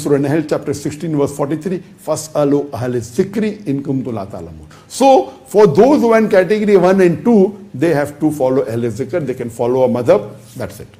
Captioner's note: Arabic